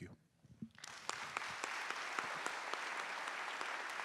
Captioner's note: applause